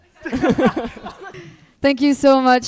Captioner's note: all laughing